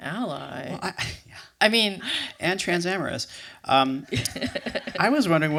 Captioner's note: laughter